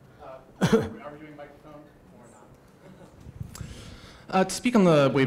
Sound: laughs

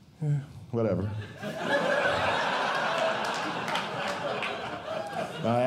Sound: audience Laughing

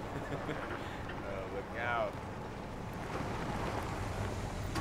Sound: laughs

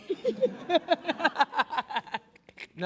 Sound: laughing

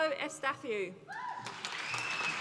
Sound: applause

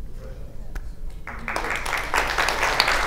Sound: applause

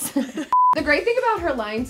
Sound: beep sound

